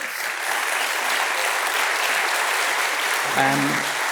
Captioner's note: claps